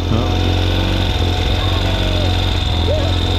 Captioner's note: engine roaring; children laughing